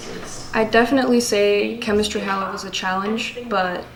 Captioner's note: voice-over